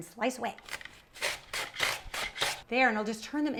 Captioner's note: mandolin slicing